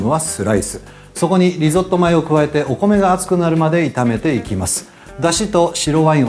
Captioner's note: Italian